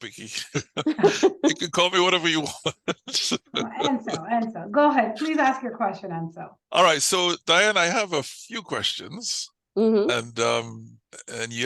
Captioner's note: laughter